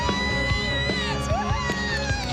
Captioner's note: screams